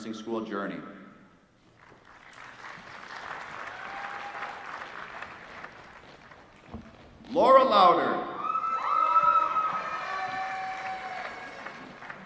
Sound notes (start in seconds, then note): 1.7 applause; 8.8 applause